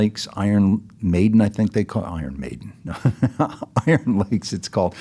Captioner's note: laughs